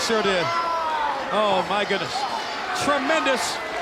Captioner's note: Ric yelling